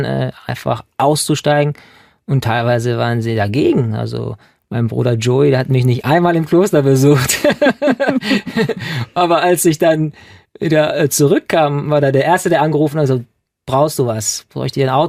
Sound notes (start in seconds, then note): 7.2 laughing